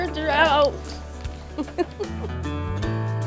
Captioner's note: laughing